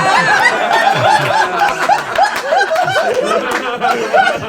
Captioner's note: group laughs